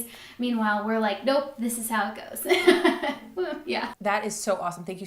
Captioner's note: laughs